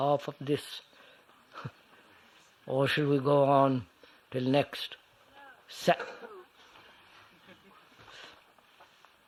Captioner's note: laughs